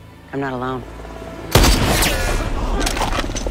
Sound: gunshot

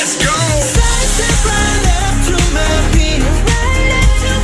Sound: heartbeat

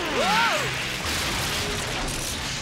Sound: crashing

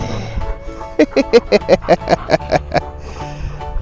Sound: laughs

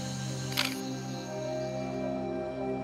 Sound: camera clicks

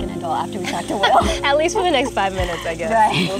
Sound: laughs

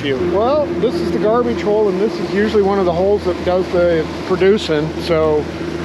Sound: boat engine running

